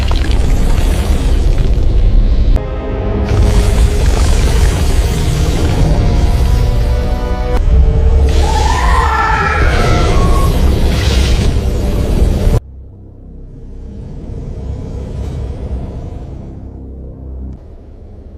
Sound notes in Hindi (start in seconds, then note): 8.3 चीखने की आवाज़